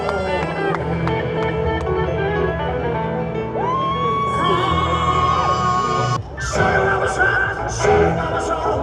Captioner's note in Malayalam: കരഘോഷം